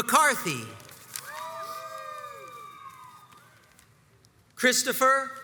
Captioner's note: crowds cheers and applauds